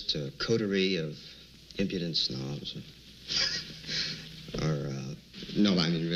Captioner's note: laughing